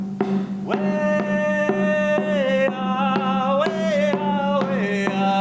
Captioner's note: chanting in foreign language